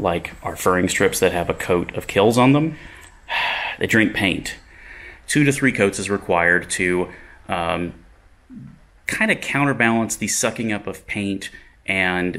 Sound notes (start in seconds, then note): none